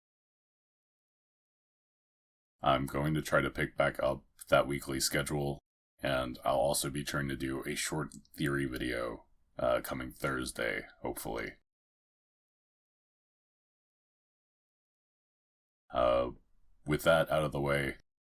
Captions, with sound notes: I'm going to try to pick back up that weekly schedule and I'll also be trying a shorter theory video around Thursday, hopefully... *Awkward Silence* Uh, with that out of the way...